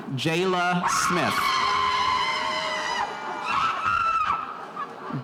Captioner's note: spectators cheering